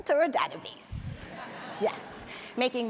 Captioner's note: audience laughs